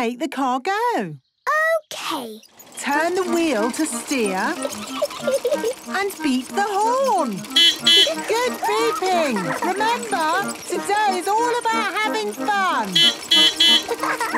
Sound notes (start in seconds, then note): 4.1 giggling; 6.4 beeping; 11.7 beeping; 11.7 laughing